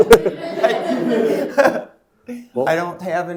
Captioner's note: all laughing